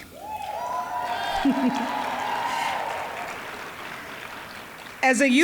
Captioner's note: audience cheering